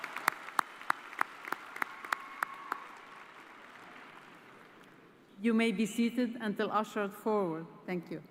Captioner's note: cheers and applause